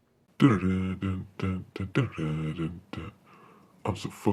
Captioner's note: killer hums